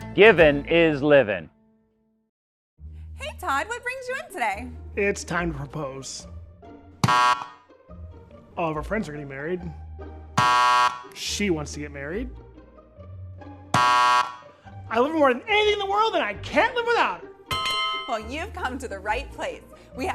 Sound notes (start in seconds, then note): 7.0 gentle music; 7.0 buzzer buzzes; 10.4 buzzer buzzes; 13.7 buzzer buzzes; 17.5 bell dinging